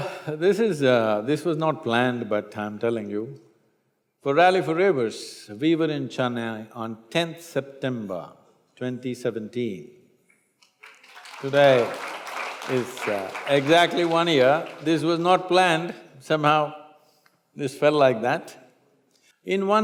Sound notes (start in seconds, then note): 10.6 applause